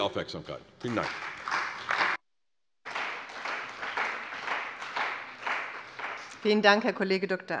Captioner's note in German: Beifall bei der CDU und dem BÜNDNIS 90/DIE GRÜNEN